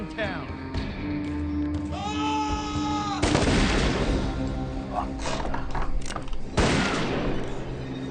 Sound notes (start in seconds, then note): 1.9 screaming; 3.2 gunshots